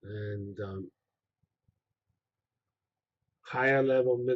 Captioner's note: pause